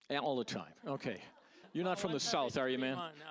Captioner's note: audience laughing